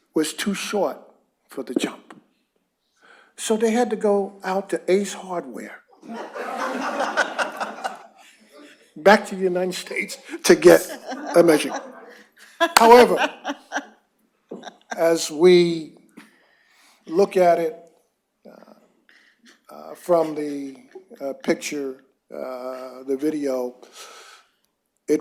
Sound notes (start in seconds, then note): 6.0 laughter